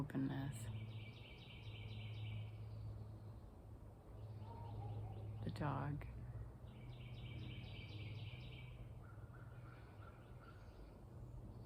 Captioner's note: dog barks